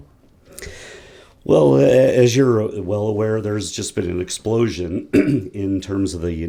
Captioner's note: cough